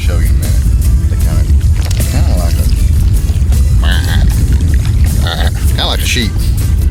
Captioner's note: baas